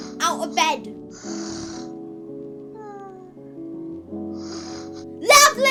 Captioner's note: snoring